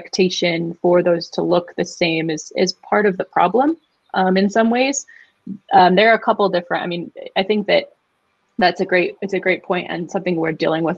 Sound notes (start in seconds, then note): none